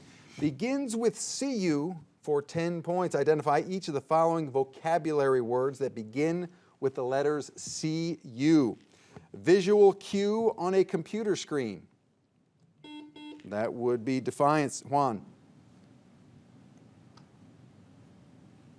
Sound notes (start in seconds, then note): 12.8 buzzer beeps